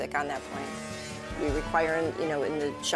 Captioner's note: machinery whirring